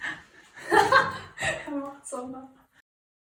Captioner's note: laughes